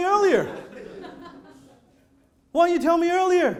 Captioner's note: audience laughing